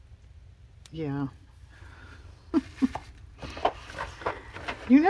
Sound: laughs

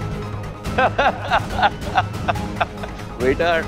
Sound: laughing

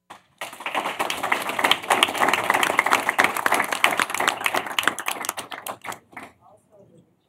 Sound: applause

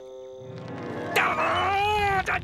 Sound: growling

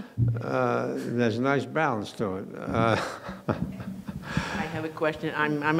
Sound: laughing

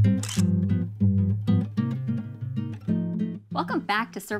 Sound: relaxing music; camera shutter

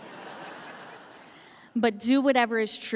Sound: audience laughing

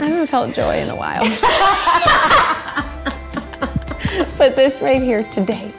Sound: laughing

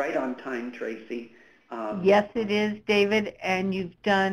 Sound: voiceover

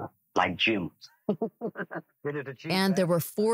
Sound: laughs

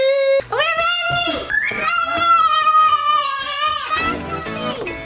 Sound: shouting

